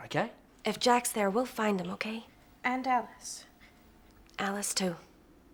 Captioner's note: none